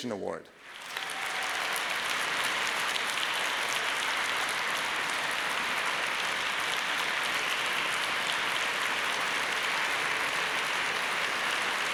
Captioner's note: clapping